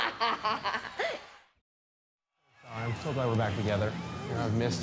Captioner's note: Daffney laughs